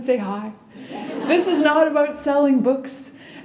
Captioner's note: laughter